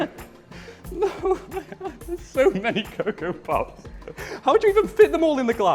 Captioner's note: laughter